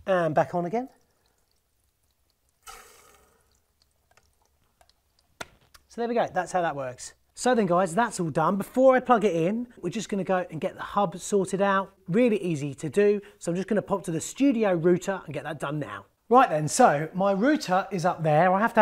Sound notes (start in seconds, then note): 1.6 water running; 2.7 water blows; 5.1 slaps